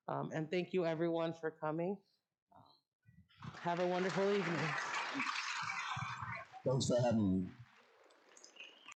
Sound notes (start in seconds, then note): 3.4 audience Clapping